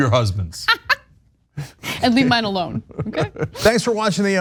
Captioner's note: laugh